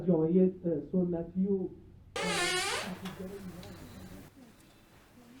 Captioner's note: door squeaking